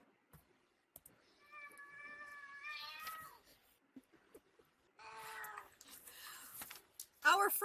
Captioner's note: cat crying